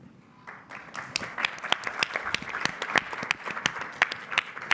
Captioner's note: applause